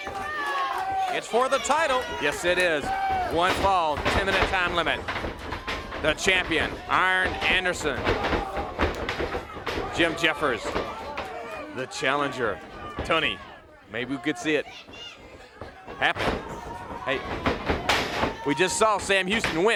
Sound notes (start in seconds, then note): 0.0 crowd cheering; 11.1 crowd cheering; 16.0 crowd cheering